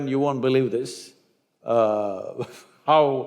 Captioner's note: laughs